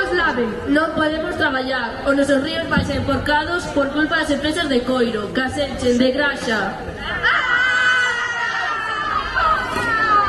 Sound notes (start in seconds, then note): 7.1 aaah!